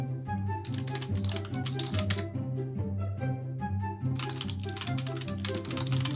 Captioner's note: plastic keys clicking